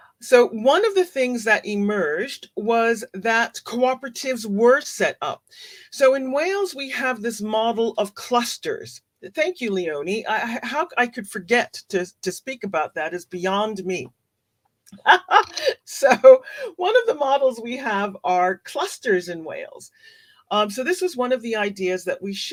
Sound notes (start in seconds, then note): 14.9 laughs